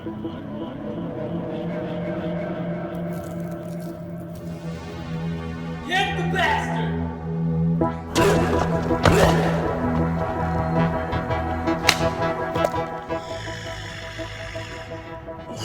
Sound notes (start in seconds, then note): 8.1 grunts; 12.6 growling